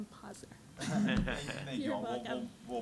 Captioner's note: laughing